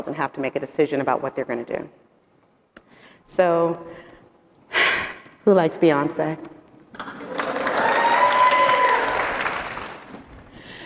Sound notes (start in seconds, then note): 7.0 audience cheering